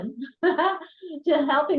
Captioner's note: laughter